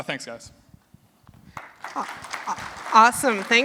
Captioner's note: applause